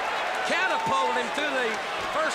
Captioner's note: crowd chatter